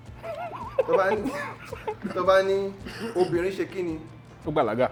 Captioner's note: laugs